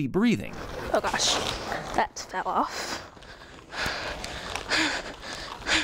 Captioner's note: heavy breathing